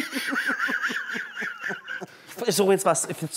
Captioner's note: Sie lachen